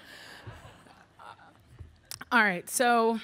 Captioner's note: audience laughing